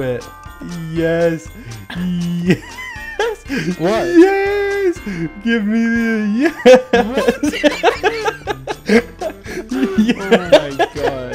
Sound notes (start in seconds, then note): 7.9 laughing